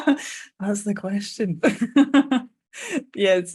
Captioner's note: laughing